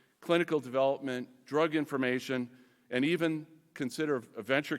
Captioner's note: none